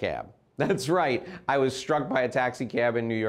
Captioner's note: laughs